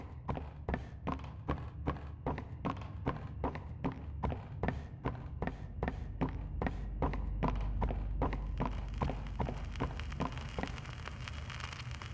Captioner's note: footsteps